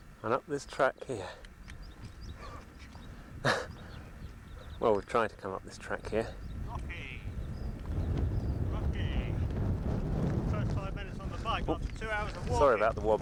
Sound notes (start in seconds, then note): 3.4 laugh